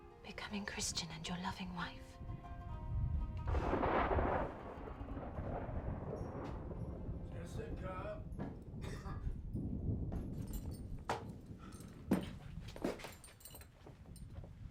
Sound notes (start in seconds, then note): 3.1 thunder crashes; 8.8 Shylock coughs